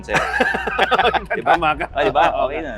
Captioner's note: both laughing